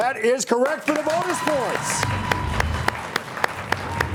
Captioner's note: audience applauding